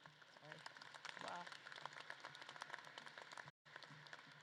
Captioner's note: audience claps